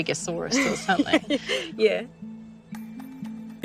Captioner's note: both laughing